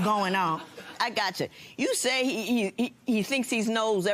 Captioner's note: laughter